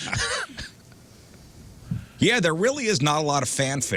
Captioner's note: laughing